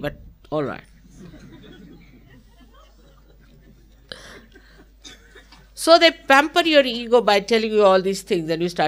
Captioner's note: Shri Mataji laughing & laughter